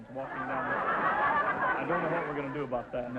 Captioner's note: audience laughter